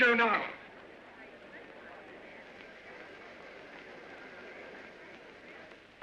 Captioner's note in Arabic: ثرثرة خافتة